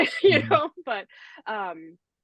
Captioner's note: laughs